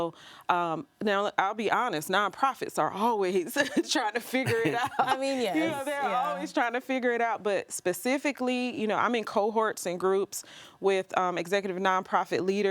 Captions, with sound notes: that they wouldn't get otherwise. And so, now, I'll be honest, nonprofits are always [chuckles] trying to figure it out. - I mean, yes, yeah. - You know, they're always trying to figure it out. But specifically, you know, I'm in cohorts and groups